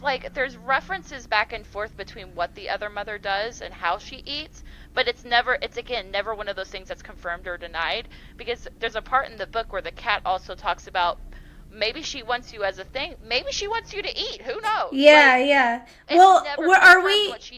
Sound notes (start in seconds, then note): none